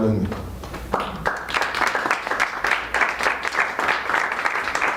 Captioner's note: applause